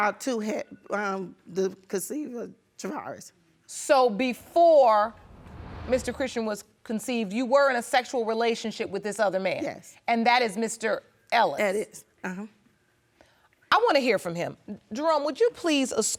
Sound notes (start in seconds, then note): none